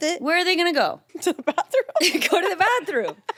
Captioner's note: laughs